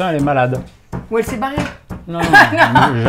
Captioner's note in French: rires